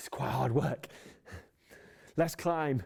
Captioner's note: sighing